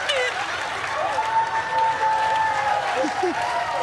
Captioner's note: cheers and applause; laughs; cheers and applause continue